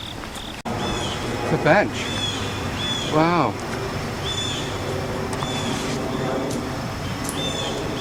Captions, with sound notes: It's a bench. Wow (Airplane Overhead)